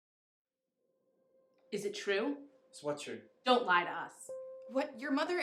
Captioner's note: voiceover